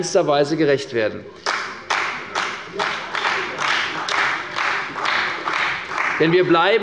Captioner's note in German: Beifall bei Abgeordneten der CDU